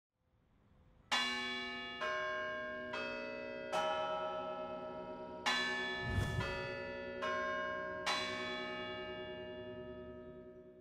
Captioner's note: bell Ringing